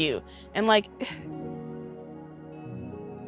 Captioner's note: crying